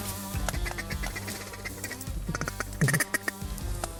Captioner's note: upbeat rock music; duck call blowing